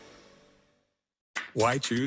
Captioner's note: fades to silence